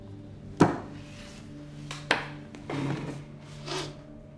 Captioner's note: table slamming